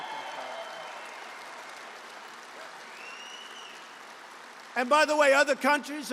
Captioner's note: applause